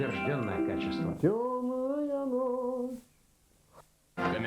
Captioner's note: hums